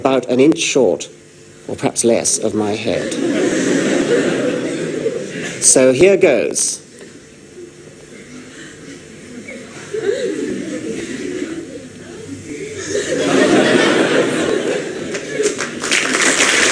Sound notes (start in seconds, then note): 3.0 chuckles; 3.0 laughter; 15.0 applause